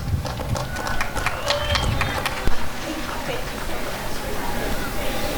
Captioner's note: applause and cheering